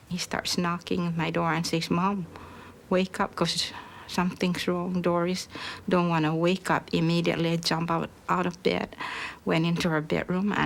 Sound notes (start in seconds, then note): none